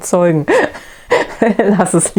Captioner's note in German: lacht